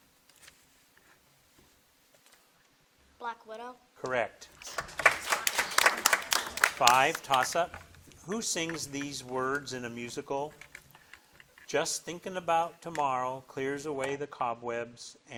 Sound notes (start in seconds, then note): 4.5 audience applauding